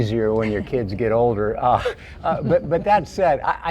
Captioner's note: laughing